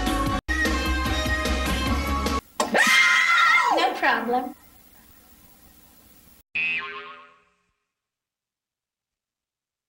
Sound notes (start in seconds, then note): 2.7 kids screaming; 6.5 boing